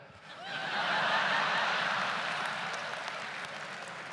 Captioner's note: audience laughs loudly; audience applauds